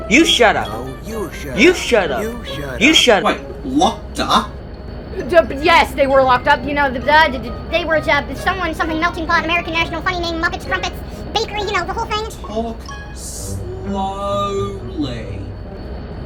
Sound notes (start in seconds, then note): 7.3 speaking in fast gibberish